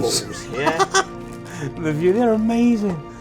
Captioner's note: laughs